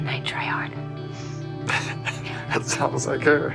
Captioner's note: Luke laughs